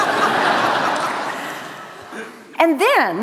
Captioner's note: laughter